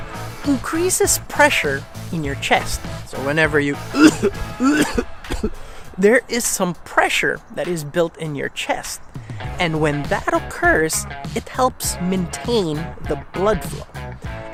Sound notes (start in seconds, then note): 3.7 cough sounds